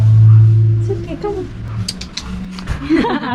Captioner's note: tutstutstut